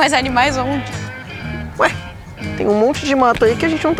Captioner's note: Dininha laughs